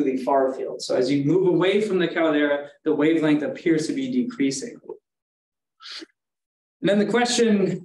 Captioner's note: inhales